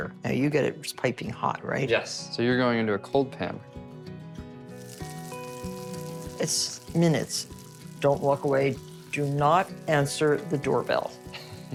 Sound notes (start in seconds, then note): 4.6 food sizzling; 5.5 gentle music